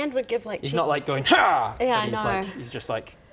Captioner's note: hrrgh